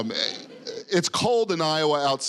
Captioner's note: audience laughing